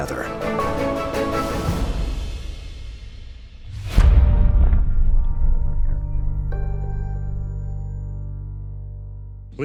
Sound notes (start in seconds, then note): 3.4 logo whooshing; 6.4 gentle music